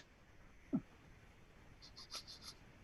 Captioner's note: sniffing